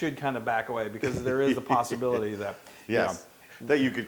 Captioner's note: laugh